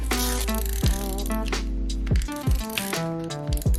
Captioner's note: plastic clicking